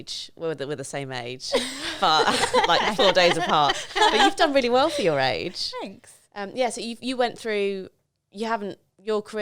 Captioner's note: laughing